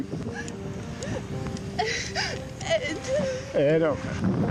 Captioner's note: sobbing